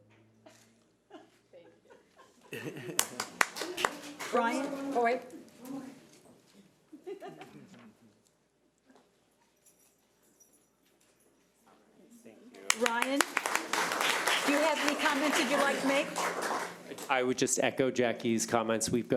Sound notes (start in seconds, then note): 2.6 audience applauds; 12.6 audience applauds